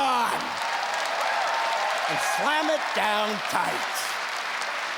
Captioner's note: cheering; clapping